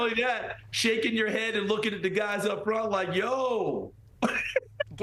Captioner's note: laughter